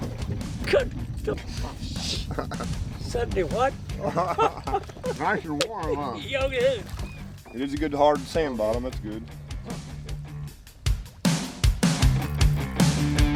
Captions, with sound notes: (laughs) - 70 what? - Nice and warm huh? - Oh yeah - And there's a good, hard sand bottom. It's good. (upbeat music)